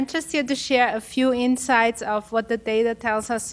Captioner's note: none